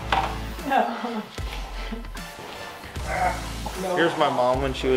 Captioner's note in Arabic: يضحك